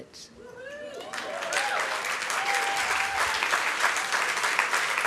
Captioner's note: applause